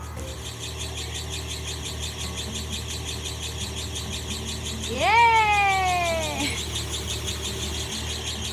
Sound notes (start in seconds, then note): 0.0 truck squeaking; 1.9 lighthearted folk music